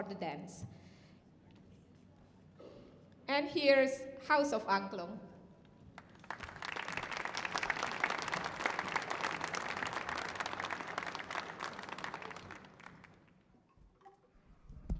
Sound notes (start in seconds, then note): 6.0 audience applauding